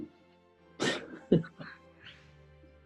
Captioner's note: chuckling